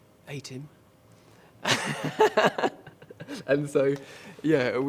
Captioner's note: laughs